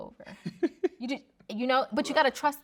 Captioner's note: laughing